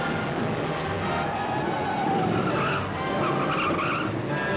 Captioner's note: dramatic music; tires squealing